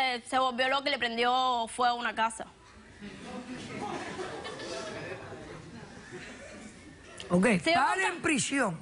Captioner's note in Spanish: risas